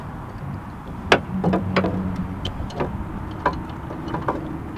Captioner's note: banging noises